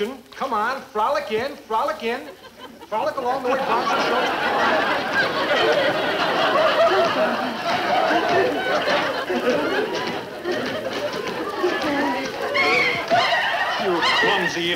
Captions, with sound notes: Come on, frolic in, frolic in! Frolic along the way Bonzo showed you. (audience laughing) (Joan humming softly) (Bonzo shrieking) You clumsy idiot!